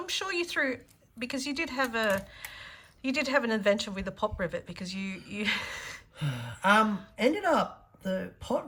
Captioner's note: sigh